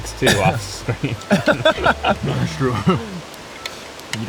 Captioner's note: all laughing